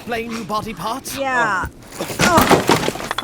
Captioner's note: groaning